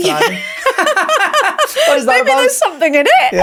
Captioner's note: laughing